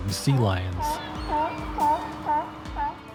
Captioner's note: sea lion barking